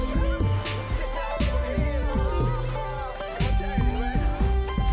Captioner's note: overlapping chatter